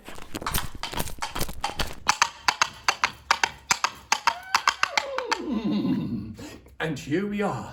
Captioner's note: horses hooves